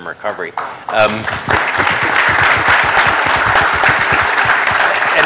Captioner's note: applause